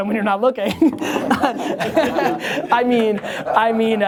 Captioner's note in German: Lachen